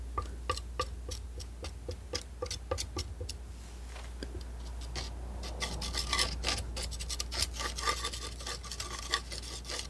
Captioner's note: scratching